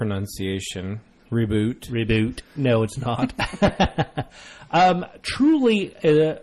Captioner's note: DJ laughs